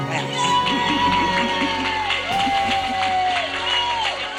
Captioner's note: audience applauding